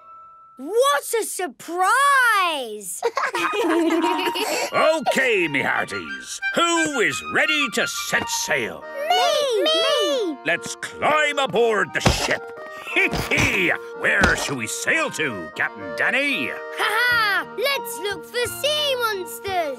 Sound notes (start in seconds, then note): 3.0 laughter